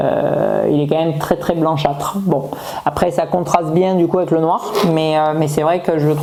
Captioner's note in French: grognement